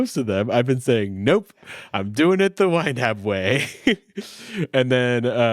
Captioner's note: laughing